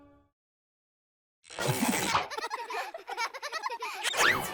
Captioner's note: children laughing; children cheering